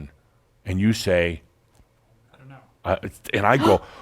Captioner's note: gasps